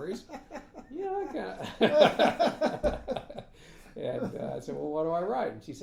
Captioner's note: laughing